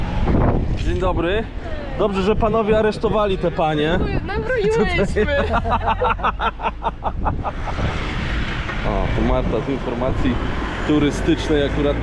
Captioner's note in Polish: śmiech